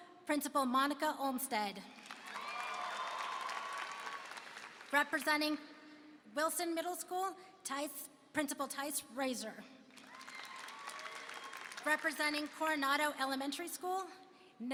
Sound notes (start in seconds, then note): 2.0 applause and cheering; 9.9 applause and cheering